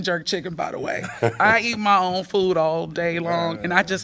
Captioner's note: laughter